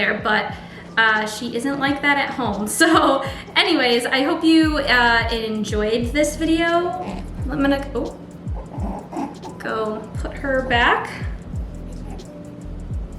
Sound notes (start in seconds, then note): 8.6 rabbit grunts